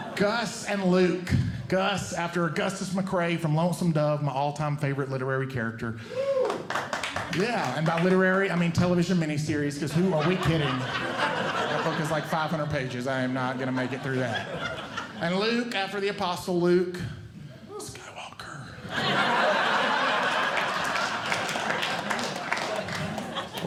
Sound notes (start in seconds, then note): 9.8 audience Laughing; 17.5 whispering; 18.8 audience Laughing